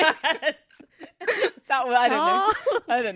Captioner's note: laughs